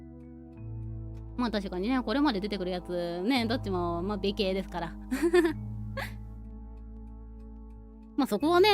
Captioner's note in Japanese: 笑い